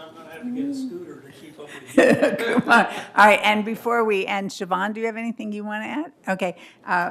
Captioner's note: laughter